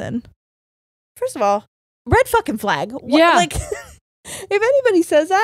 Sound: laughs

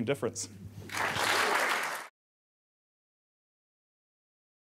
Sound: audience applauding

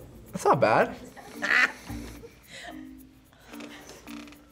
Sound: laughs

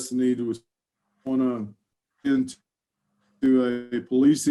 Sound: audio glitches

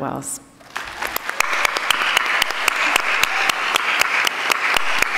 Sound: attendees applauding

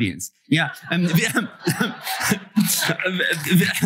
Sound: laughter; applause

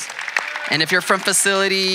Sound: audience applauding

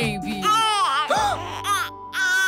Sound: cries

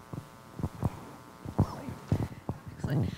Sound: laughs

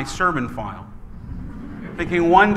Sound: laughing

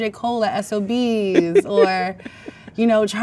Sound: man laughs

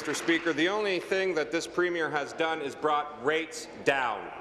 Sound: applause

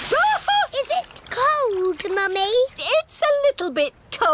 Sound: shrieks

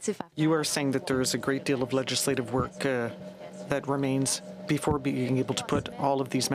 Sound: speaking french

